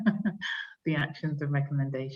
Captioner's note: laughs